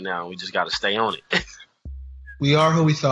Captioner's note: laughs